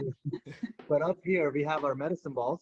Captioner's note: laughing